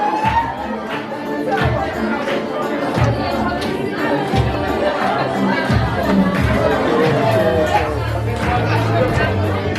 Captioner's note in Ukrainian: оплески